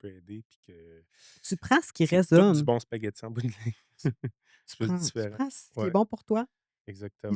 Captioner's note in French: rires